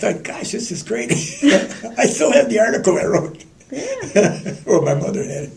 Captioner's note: laughter